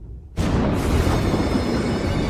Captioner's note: thunder crashes; eerie music plays